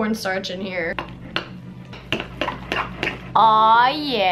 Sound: spoon clatters

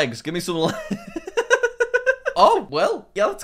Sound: laughs

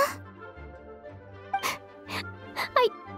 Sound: sobbing

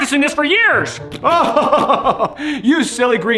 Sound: Santa laughing

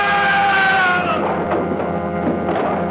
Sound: loud screaming

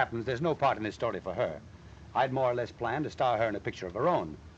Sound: none

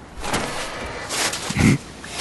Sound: mechanical noise; Jack grunts; mechanical noise

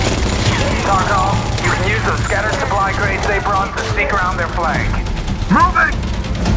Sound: over Comms

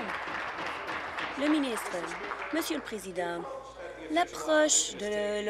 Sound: applause

